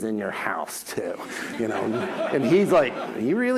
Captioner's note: audience laughs